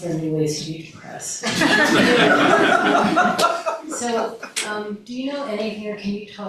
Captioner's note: laughter